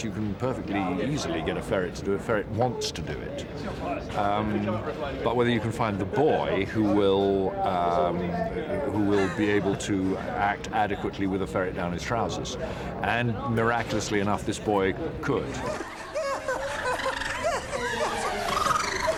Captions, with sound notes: You can easily get a ferret to do it. A ferret wants to do it. But whether you can find the boy... ...who will be able to act adequately with a ferret down his trousers. And miraculously enough, this boy could. [WHIMPERING]